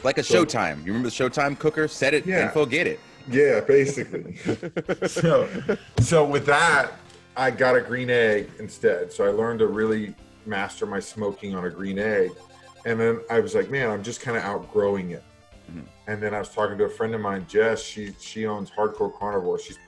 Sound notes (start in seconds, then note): 3.8 laugh